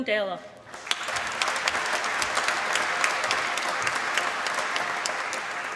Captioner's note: applause